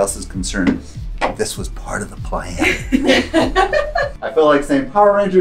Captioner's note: laughter